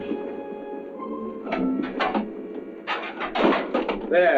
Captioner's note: metal clanking